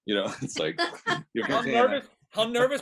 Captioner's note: laughing